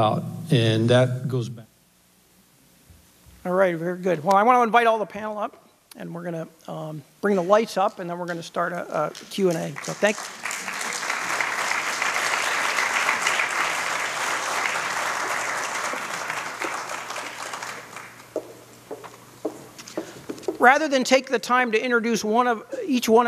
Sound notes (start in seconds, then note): 10.6 applause